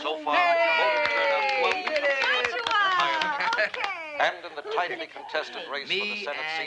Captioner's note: Tepuk tangan